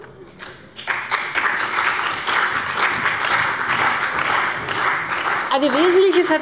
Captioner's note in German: Beifall bei dem BÜNDNIS 90/DIE GRÜNEN und der CDU